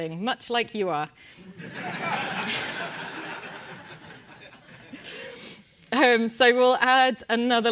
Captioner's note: laugh